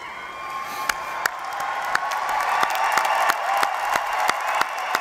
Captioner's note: applause